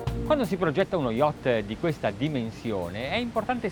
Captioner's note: speaking Italian